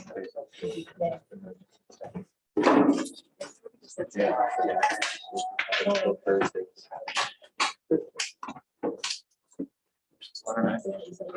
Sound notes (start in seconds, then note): 2.6 background chatter